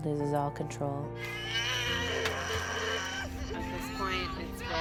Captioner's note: screaming